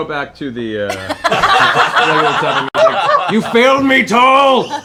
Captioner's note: laughter